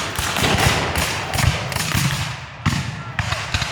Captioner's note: guns fire